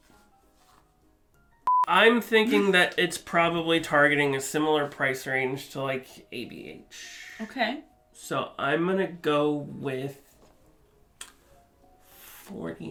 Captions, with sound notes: (beep) I'm thinking that it's probably targeting a similar price range to like ABH. - Okay. - So I'm gonna go with $49.